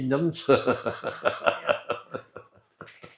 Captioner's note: laughter